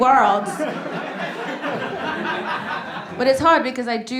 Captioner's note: audience laughing